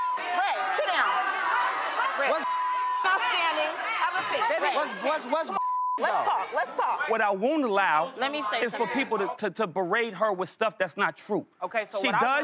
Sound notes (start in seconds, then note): 0.0 beep; 2.4 beep; 5.5 beep